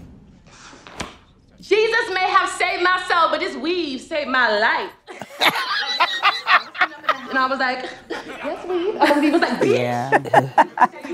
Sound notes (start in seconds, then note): 5.1 laughs